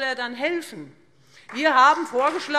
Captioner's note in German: Beifall Freie Demokraten